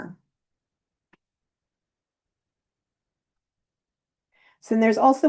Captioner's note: silence